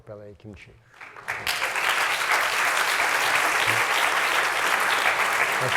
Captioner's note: applause